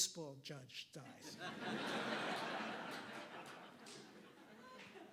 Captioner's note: audience laughing